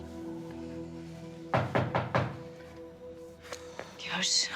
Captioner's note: knocking on the door